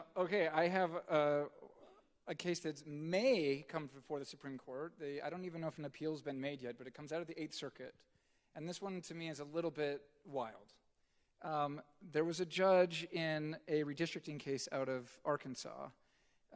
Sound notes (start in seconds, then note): none